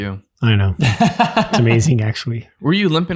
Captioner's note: innocent laughing